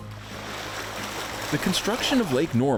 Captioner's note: water sloshing